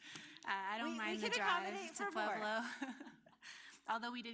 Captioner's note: laughter